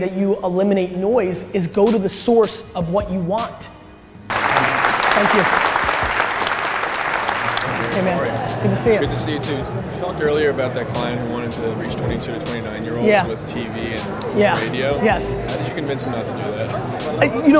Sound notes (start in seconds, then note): 4.3 audience applause